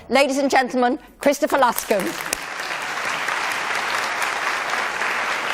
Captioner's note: applause